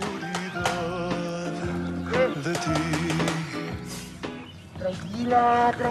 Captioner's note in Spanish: Disparos